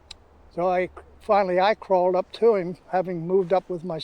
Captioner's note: clicks tongue